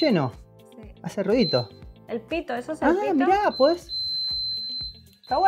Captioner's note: beeeep